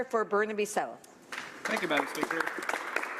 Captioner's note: speaking in french